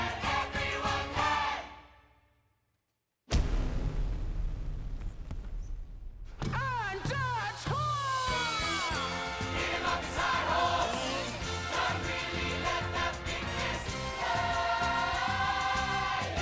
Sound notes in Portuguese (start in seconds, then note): 3.3 punch thudding; 8.5 bell dinging